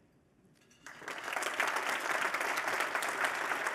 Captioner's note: applause